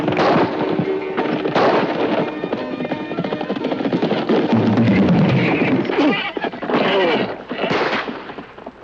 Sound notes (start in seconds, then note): 1.4 gunshots; 5.5 Billy groans; 7.6 gunshot